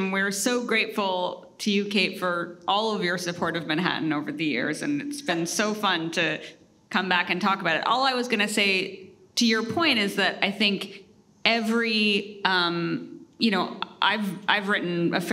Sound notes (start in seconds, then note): none